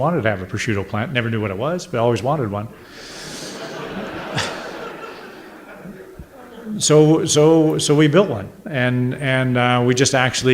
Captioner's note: audience laughter